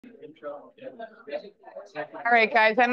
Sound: crowd chattering

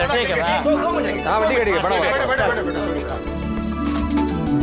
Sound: clamouring; pleasant music

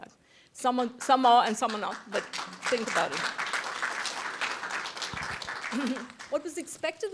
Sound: applause

